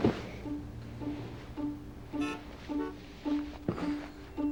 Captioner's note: car horn honks